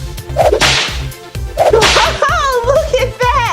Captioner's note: door whips